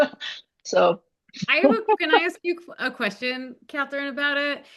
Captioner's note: laughing